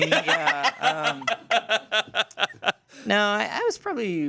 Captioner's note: everyone laughs